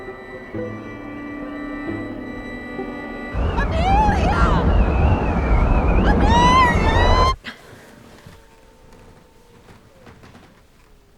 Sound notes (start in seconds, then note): 0.0 ominous music playing; 3.3 wind howling; 7.3 gasps